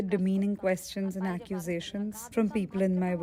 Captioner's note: speaking alternate language